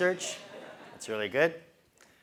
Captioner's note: laugh